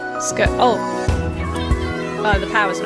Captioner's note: relatives cheering